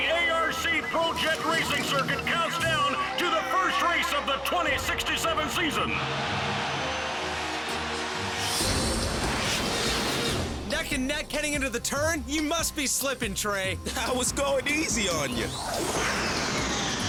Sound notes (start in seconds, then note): 6.7 crowd cheers wildly; 16.0 jets scream